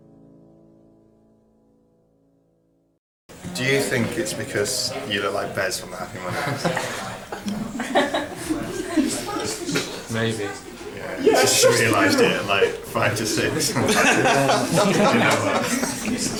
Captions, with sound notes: Do you think it's because you look like Bez from the Happy Mondays? [woman laughs] Maybe. She realised it at, like, five to six. [man laughs]